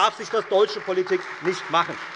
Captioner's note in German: Beifall Freie Demokraten und vereinzelt AfD